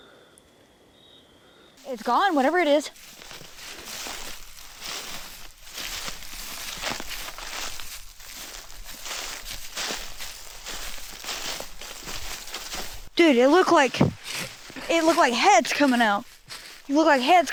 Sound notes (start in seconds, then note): 4.0 leaves crunching